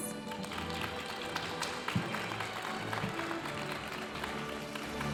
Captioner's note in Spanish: aplausos de la audiencia